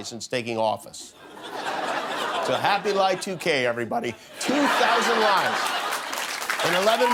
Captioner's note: laughter